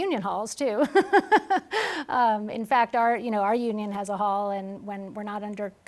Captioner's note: laughs